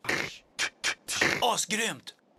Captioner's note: beatboxing